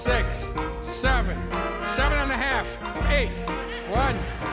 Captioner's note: laughter